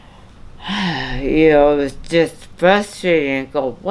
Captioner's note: sighs